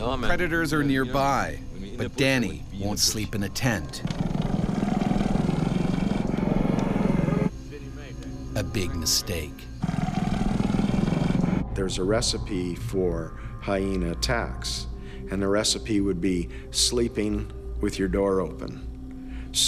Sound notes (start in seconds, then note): 0.4 voiceover; 4.0 purring